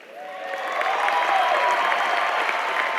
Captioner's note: applause